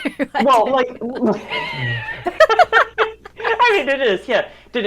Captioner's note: both laugh; laughs